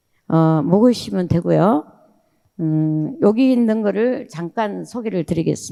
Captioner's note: speaking in foreign language